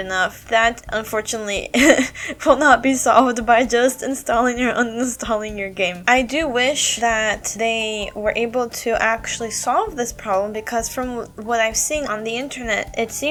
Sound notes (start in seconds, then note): 1.8 chuckle